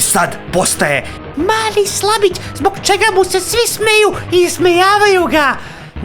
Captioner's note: with a shrill voice